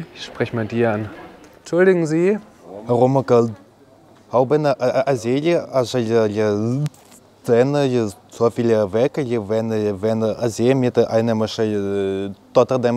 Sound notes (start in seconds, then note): 2.6 stuttering